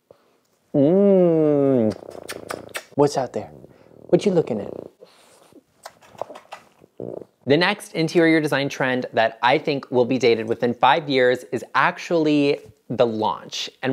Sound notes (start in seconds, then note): 0.9 hums loudly; 1.7 smooching loudly